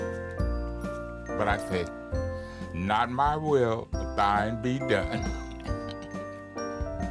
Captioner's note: chuckles